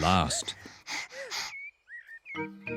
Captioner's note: both pant